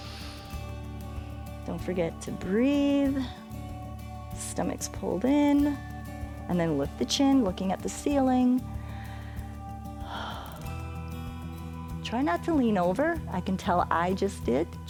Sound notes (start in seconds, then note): 0.0 inhales; 8.7 inhales and exhales